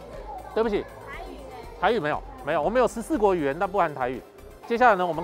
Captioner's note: Taiwanese